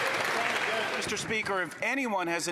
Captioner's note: some Applause